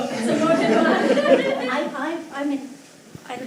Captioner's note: laughter